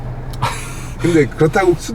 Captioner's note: chuckles